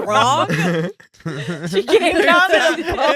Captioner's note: laughing